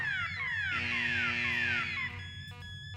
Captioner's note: alarms stop